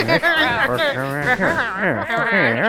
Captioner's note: laughing; murmurs